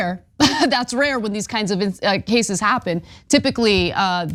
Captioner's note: laugh